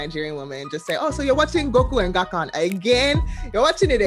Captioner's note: imitating mom's Nigerian accent